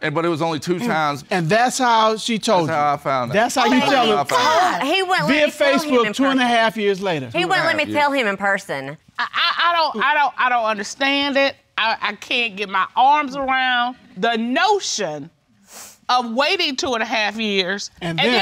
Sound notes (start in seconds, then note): 9.8 stammering